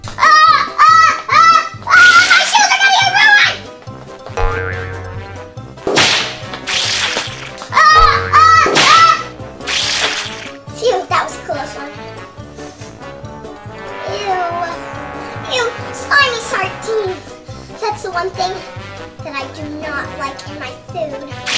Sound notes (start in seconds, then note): 4.7 cartoon impacts; 8.8 screams